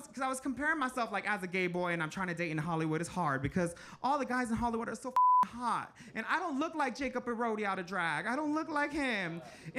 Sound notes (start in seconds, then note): 5.1 beep